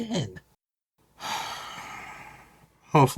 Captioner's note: sighs in tireness and dissapointment